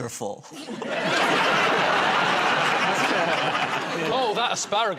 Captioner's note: laughter